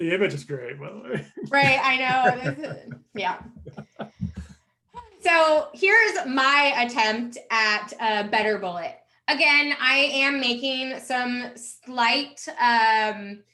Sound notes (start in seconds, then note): 1.0 laughs; 3.5 laughing